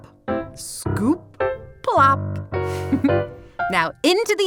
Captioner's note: giggles